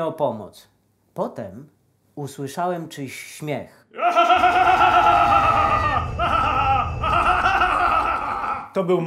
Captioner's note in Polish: śmiech